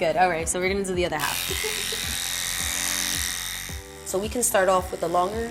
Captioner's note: razor buzzes